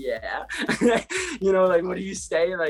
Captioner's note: laughs